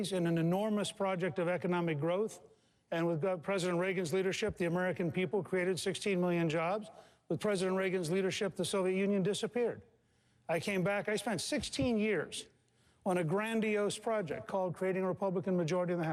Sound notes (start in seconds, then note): none